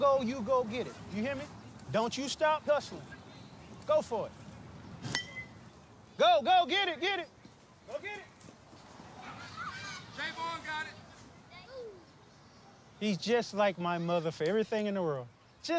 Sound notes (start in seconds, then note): 5.0 ball pinging on bat; 9.0 children screeching